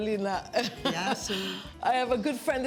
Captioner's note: in greek